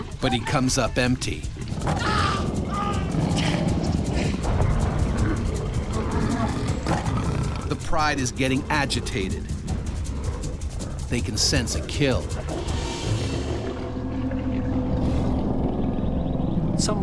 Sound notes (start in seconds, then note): 1.8 screaming and growling; 13.7 suspenseful music